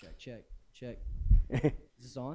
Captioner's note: laughter